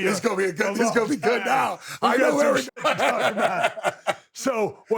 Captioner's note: laughs